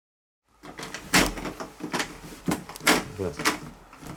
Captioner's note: the sound of turning the doorknob